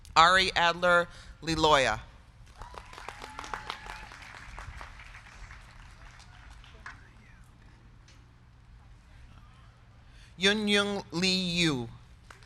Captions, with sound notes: Ari Adler Liloia. (crowd cheering) (crowd clapping) Yung Yung Liu.